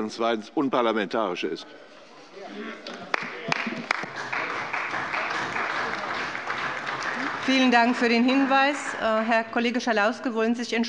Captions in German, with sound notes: zweitens unparlamentarisch ist. [Beifall bei der CDU] Vielen Dank für den Hinweis. - Herr Kollege Schalauske, wollen Sie sich